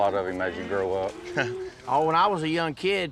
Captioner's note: laughs